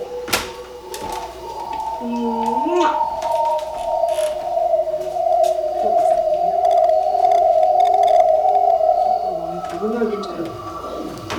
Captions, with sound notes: (hissing) - I wonder what you tell her.